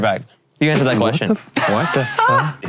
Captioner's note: laughing